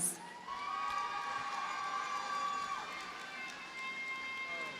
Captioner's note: audience cheers and applauds